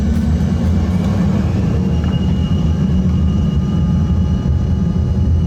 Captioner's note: propellers whirring